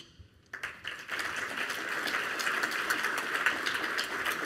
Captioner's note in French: Applaudissements